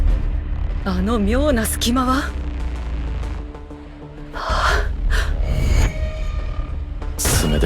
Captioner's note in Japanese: 荒い息